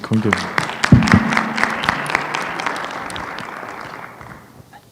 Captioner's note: applause